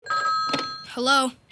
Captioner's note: phone ringing